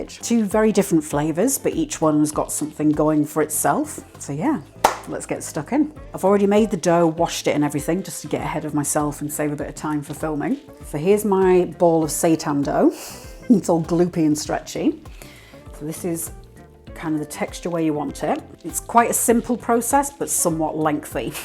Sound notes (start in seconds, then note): 4.8 clap